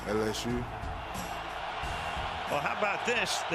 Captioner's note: cheering